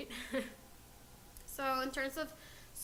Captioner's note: chuckles